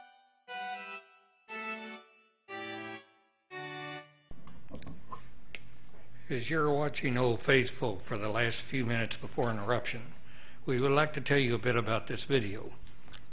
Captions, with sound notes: - [Voiceover] As you're watching Old Faithful for the last few minutes before an eruption, we would like to tell you a bit about this video.